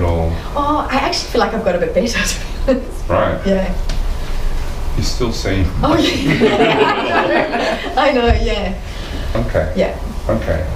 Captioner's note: audience laughter